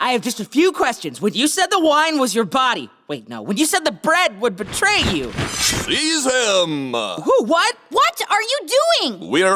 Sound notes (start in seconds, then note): 4.6 metal slicing; 6.2 voiceover